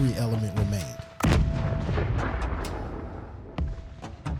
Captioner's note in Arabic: تفجير الذخائر; تستمر الموسيقى الميكانيكية الهادئة